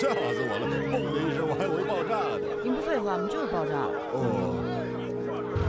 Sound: passerby noise

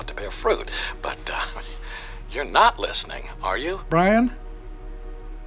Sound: chuckles

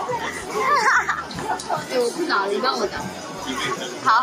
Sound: can't stop laughing

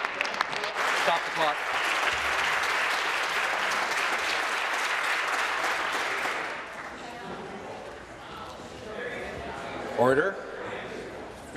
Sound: applause

